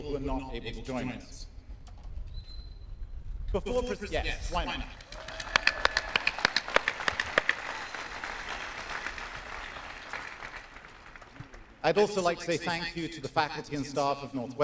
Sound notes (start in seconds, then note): 2.3 whistling; 4.9 applause and cheers